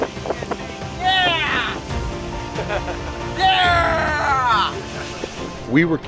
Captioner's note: laughs